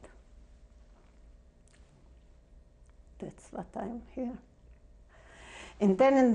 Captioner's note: pauses for 3 seconds